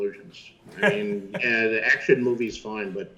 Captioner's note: Chris laughs